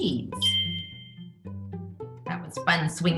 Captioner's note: bell dings